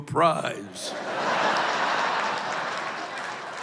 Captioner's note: laughter